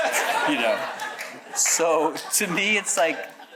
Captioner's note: audience chuckles